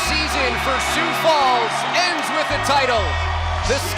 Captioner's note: crowd cheering